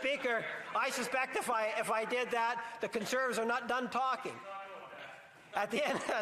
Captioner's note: laughter